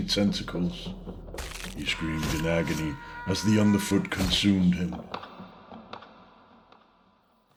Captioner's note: piercing effects and Death scream